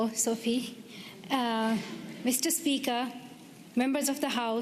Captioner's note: speaking Alternate Language